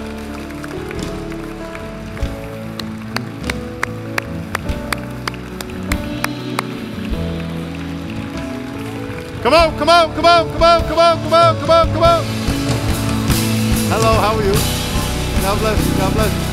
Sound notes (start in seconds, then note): 0.0 applause; 12.5 applause